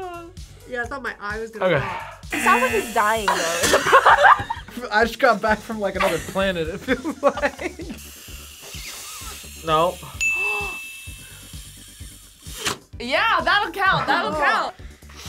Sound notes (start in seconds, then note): 2.3 buzzer; 3.2 group laughs; 10.2 bell rings; 10.4 React gasps